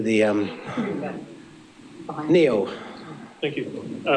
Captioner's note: laughing